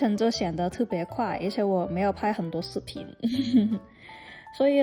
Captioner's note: laughs